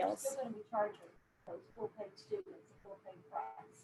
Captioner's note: murmurs